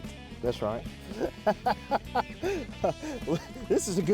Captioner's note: laughs